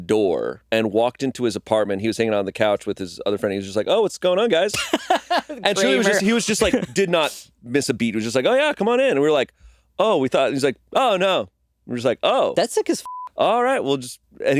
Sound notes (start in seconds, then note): 13.2 beeping